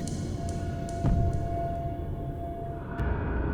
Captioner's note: thudding